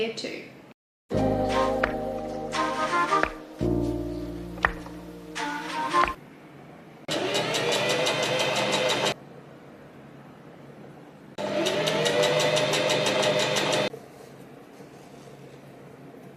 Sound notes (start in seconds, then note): 1.1 bright music plays; 7.1 sewing machine surges again